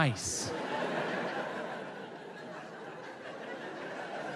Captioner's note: audience laughs